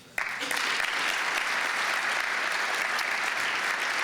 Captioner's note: applause